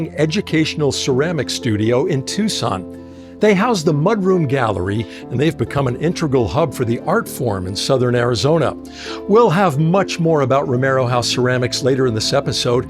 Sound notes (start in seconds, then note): none